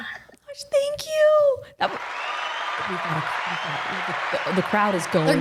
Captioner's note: crowd cheers